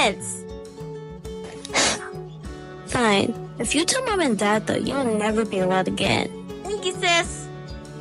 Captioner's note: sighs